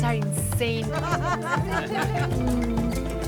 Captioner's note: laughter